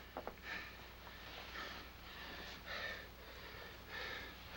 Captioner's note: heavy breathing